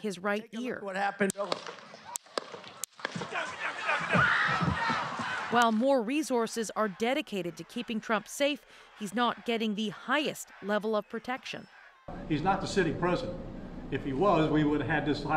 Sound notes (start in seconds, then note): 2.9 shots; 3.4 screams